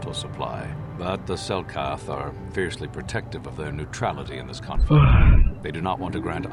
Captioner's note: sigh